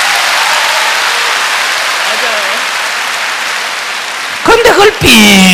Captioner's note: laugher, Applause